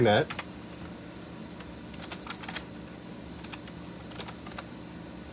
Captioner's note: more soft, slightly clicky keyboard noises